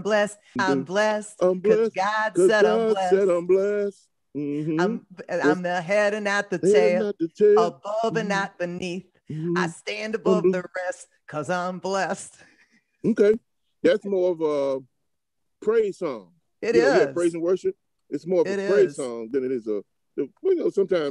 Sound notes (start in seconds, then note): 4.4 hums; 13.0 chuckles